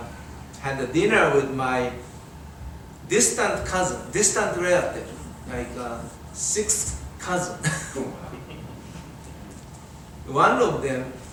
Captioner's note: audience chuckles